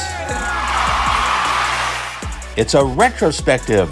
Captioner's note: crowd Cheering